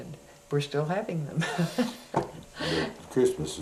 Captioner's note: laughter